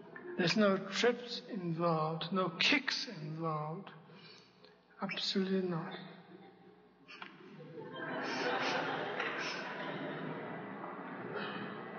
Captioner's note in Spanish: risas